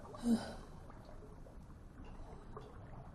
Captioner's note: sighing